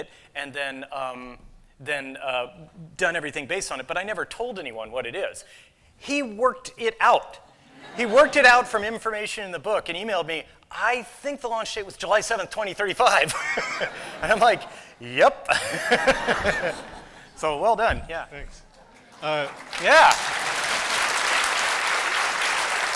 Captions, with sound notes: and then done everything based on it, but I never told anyone what it is. He worked it out. He worked it out from information in the book and emailed me, "I think the launch date was July 7, 2035." And I'm like, "Yep." [laughter] So, well done, yeah. - Thanks. - Yeah. [applause]